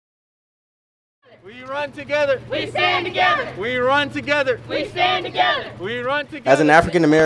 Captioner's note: chanting: We run together. We stand together